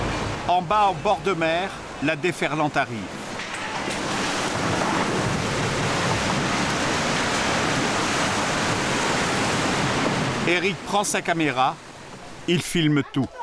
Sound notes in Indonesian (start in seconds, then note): 4.7 suara gelombang tsunami